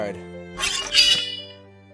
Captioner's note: unsheathes sword